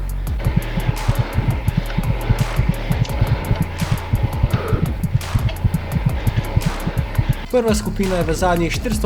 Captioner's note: heartbeat